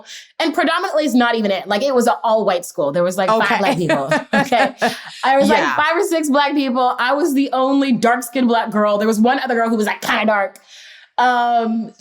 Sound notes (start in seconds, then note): 3.6 laughter